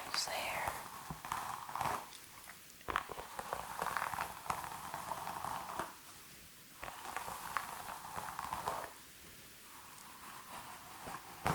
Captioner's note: hair brushing sounds